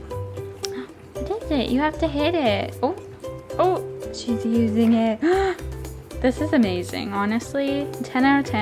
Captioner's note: gasp